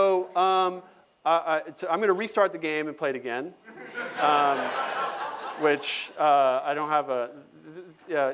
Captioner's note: laughter